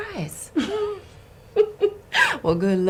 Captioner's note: laughs